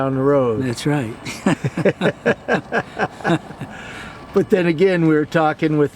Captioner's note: laughs